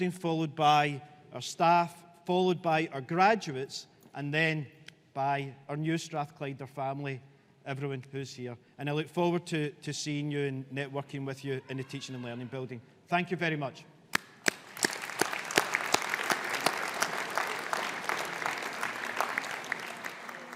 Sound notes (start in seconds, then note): 14.1 audience applauding